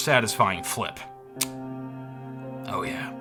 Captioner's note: mechanism clicking